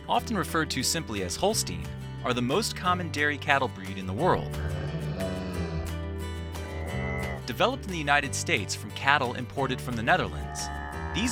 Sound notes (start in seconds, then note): 4.5 cattle mooing